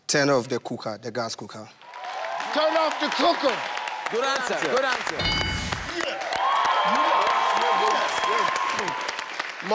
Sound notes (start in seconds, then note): 2.3 audience cheers; 5.2 machine rings; 7.3 audience cheers